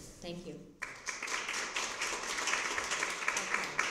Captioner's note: applause